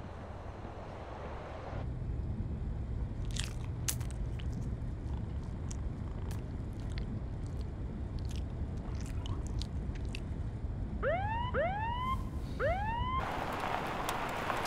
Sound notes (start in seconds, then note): 3.2 Carla chewing; 11.0 police siren wailing